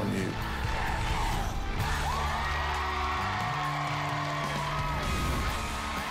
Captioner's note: crowd chanting "dr. phil!"; cheering and applause